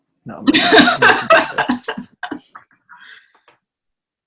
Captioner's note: laughs